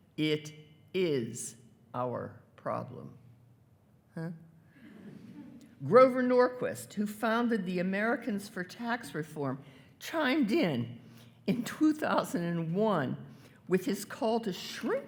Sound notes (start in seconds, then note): 5.0 everyone chuckling